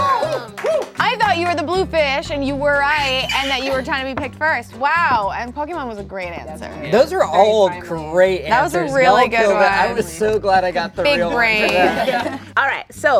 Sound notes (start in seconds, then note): 0.0 group cheering; 0.0 cheering; 3.0 shrieking; 11.6 chuckling